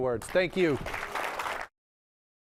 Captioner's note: applause